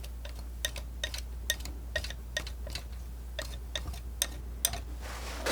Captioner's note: tapping